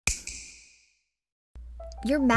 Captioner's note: snap; upbeat quirky music playing